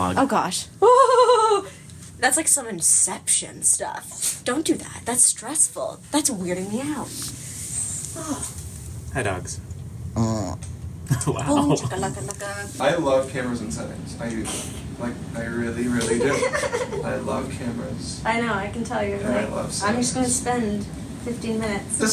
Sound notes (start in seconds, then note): 0.8 laughs; 10.1 dog grunts; 11.1 laughing